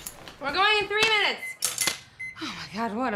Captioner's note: beeping